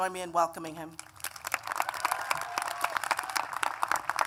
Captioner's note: applause